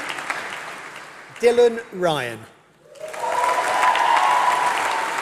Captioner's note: applause